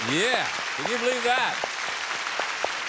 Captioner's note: applause